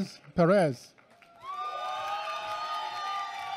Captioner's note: applause